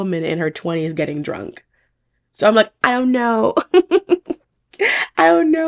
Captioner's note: laughing